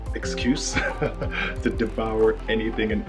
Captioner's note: laughs